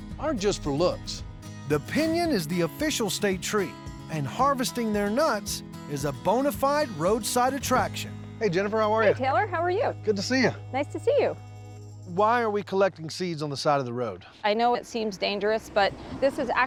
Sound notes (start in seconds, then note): none